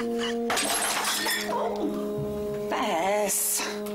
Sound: quirky music; Walter laughing; glass breaking

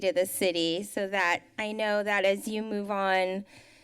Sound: none

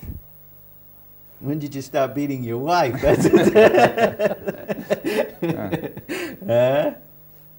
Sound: laughs

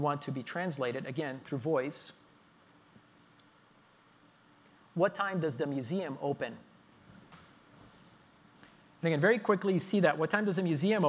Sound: pause

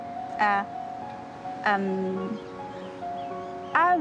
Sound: none

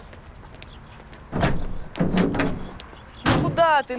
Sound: car door slams

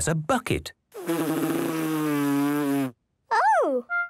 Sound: blows

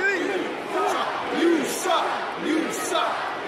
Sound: chanting

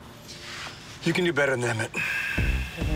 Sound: sighs

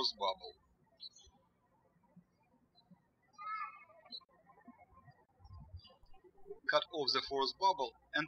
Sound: birds chirping

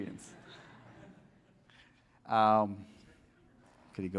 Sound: laughter

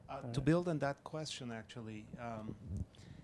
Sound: voiceover

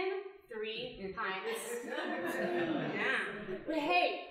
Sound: audience laughing

